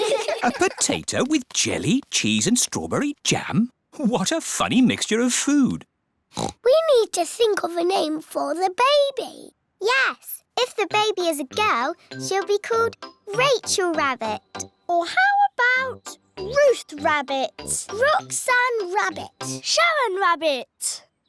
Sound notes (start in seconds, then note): 6.3 oinks